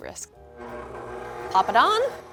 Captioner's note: machine whirs